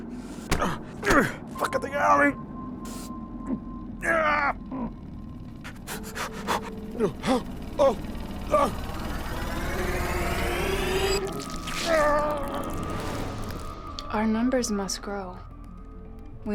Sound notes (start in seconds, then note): 8.8 music intensifies; 11.2 moist sounds